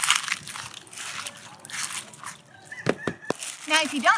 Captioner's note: splashing noises